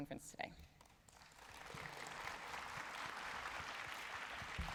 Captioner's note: applause